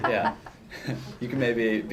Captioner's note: laughter